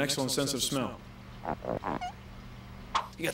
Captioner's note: squeak!